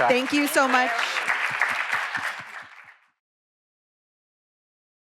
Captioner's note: audience applauding